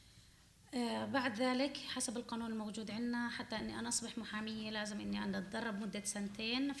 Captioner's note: speaking arabic